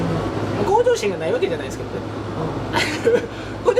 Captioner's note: laughs